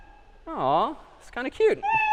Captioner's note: meow